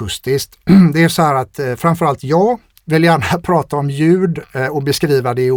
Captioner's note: clears throat